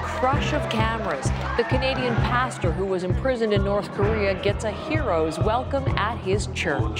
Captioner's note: cheers and Applause